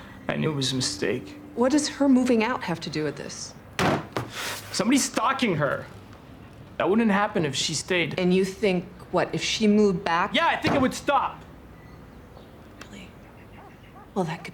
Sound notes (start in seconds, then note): 3.8 bangs table